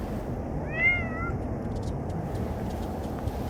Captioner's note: meow